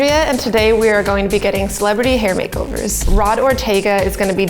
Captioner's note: none